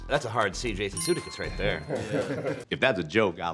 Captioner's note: chime dings